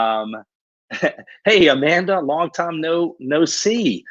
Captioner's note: laughs